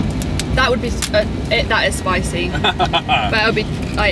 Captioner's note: laughing